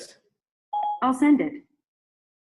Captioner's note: phone beeping